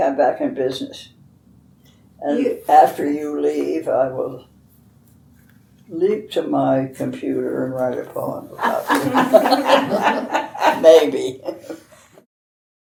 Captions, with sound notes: . . . so I think I'm back in business. And after you leave I will leap to my computer and write a poem about you (laughs). Maybe!